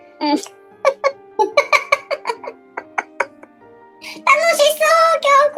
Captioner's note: laughs